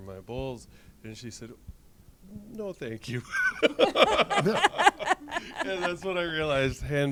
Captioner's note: laughs